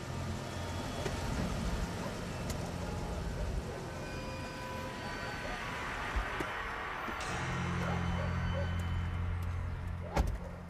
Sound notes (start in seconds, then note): 6.3 engine shuts off; 7.8 dog barking